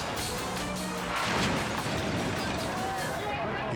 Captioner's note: car crashing